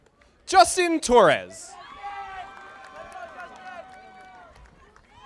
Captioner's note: audience applauding